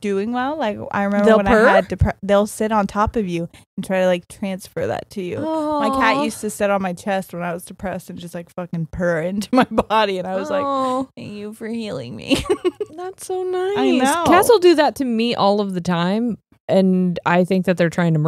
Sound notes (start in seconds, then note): 10.4 laughs